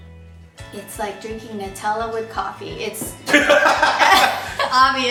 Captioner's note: both laugh